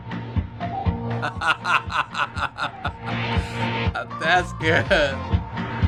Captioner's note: laughing